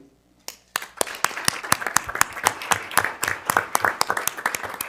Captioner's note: audience applauding